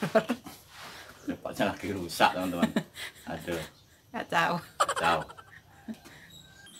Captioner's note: laugh